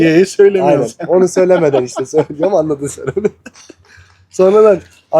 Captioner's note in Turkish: kahkaha